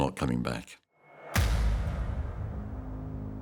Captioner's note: gunshot